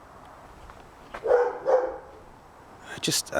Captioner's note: barking